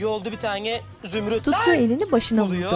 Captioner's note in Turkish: Bağırma sesi